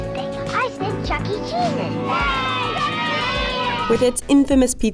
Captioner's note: kids cheering